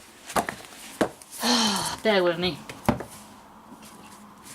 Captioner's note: sigh